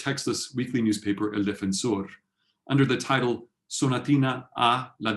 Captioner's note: spanish